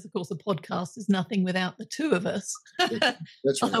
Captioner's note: laughing